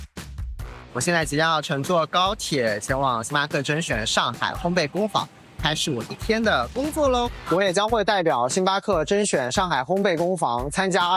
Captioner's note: speaking another language